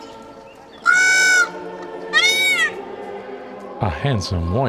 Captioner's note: loud bird call